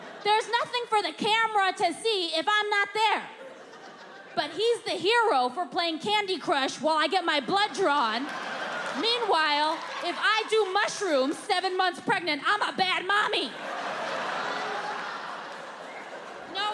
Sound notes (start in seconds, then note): 7.4 audience laughing; 13.4 audience laughing